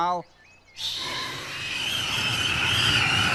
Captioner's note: whoosh